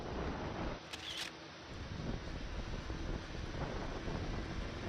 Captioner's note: camera clicking